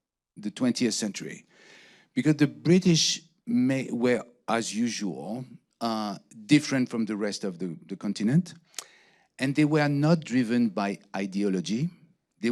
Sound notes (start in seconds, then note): none